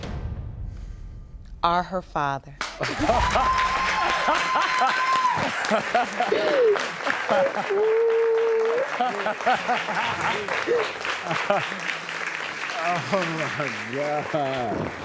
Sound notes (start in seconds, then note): 3.3 laughing joyfully; 4.6 audience applauding; 6.5 sobbing; 8.1 laughing